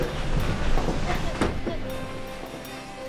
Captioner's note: child laughing